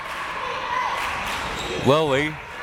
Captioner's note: crowd members chanting